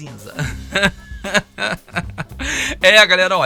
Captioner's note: laughter